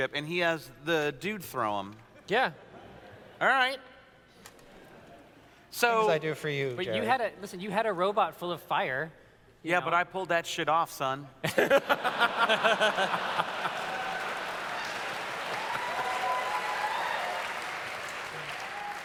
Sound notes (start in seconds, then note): 11.4 laughter; 12.2 audience cheers